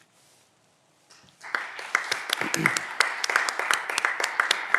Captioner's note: audience applause